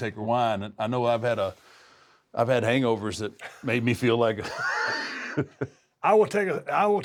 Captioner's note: laugh